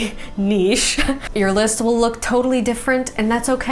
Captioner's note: laughs